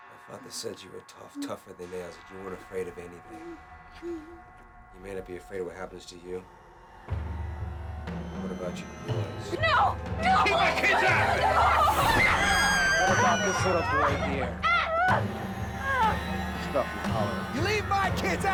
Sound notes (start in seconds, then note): 10.2 screaming; 15.0 whimpering